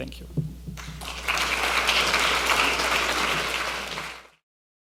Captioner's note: audience applauding